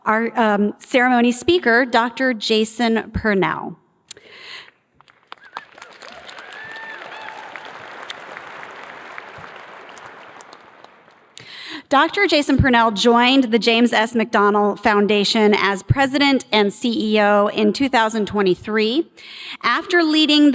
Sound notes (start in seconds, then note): 7.7 cheers and applause